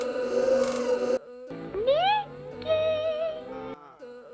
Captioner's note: voiceover